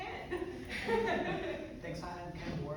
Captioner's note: laughing